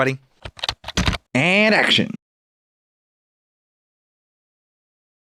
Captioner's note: typing